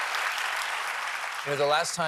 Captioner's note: cheers and applause